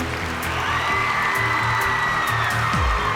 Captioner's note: crowd cheering